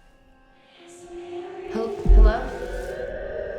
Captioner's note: eerie music; voices whispering